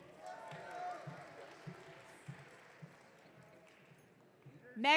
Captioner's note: audience cheering